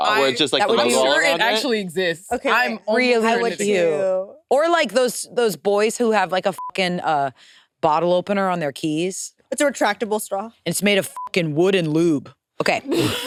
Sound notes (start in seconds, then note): 2.4 participants chattering; 6.5 beep; 11.1 beep